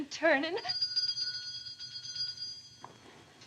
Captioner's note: doorbell rings